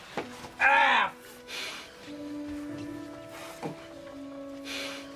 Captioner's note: Robert groaning